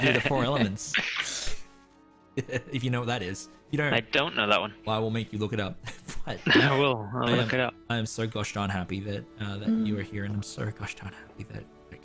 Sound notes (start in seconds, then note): 0.9 heh